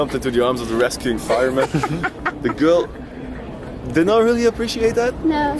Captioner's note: laughing